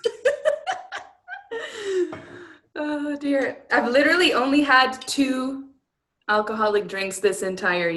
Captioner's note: laughter